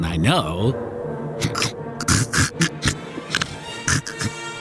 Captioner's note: laugh; bad nerd laugh